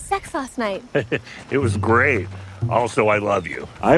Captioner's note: chuckles